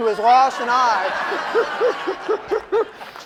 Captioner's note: laughter